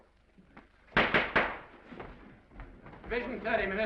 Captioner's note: gavel bangs